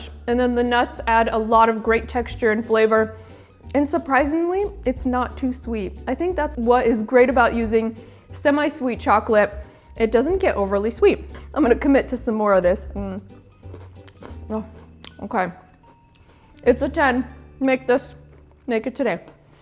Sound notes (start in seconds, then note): 13.5 toffee crunching